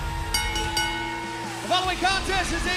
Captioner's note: bell ringing